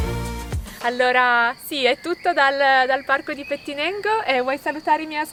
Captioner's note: speaks in foreign language